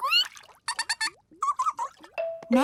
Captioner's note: both fish laughing